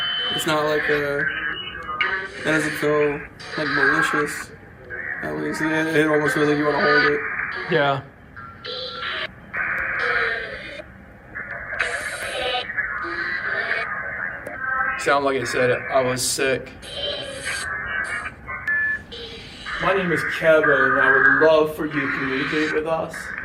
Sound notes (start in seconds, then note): 17.7 ominous voice